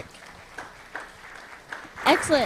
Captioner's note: applause